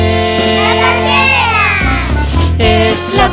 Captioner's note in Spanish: coro de niños gritando